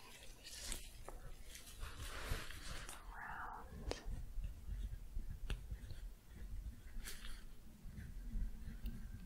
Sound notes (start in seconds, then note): 1.4 shuffling